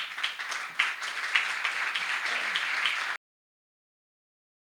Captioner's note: applause